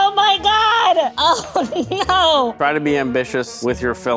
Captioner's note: laughing